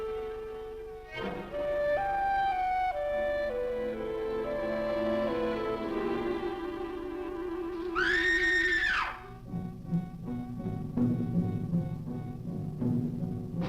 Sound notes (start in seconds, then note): 7.8 screams; 9.1 dramatic instrumental music